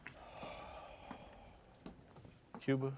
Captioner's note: sighs